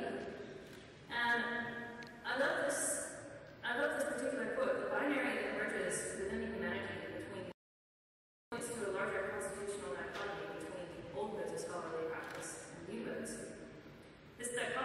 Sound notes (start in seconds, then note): none